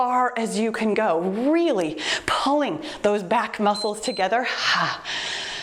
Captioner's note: timer beeps